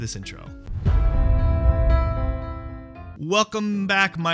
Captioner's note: swooshing sound